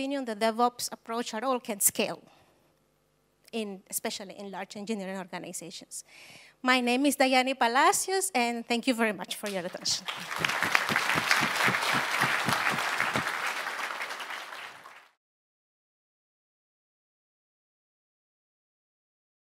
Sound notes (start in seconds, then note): 9.4 applause